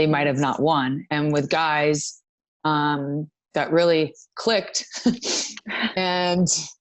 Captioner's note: laughs